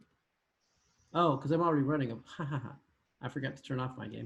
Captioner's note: laughing